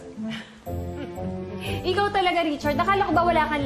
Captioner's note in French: chuckles lightly